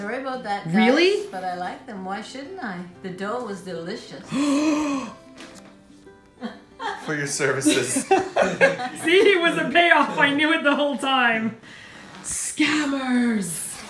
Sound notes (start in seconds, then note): 4.2 le GASP; 7.6 laughter